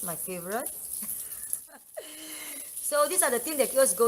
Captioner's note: laugh